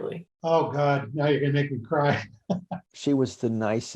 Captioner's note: laughs